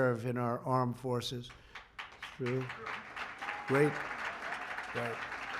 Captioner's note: applause